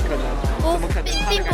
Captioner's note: laughs